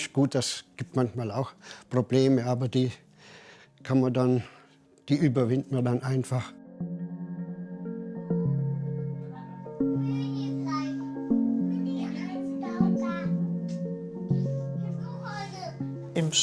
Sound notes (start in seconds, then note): 6.7 calm music; 9.9 children's voices